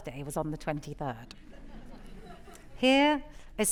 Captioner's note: audience laughing